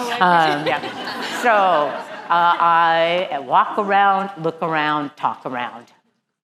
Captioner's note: laugh